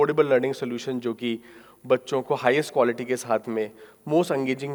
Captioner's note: speaking in foreign language